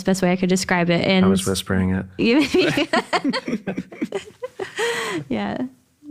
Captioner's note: laughs